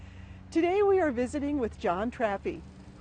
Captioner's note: mowing lawn